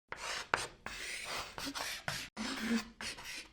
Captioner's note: chalk scraping